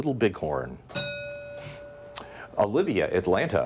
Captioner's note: bell dings